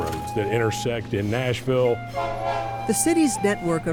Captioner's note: horn honking